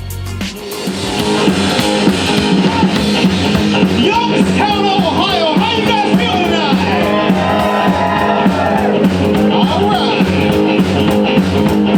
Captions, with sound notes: (energetic rock music) - Youngstown Ohio, how you guys feeling tonight? (crowd cheers) All right!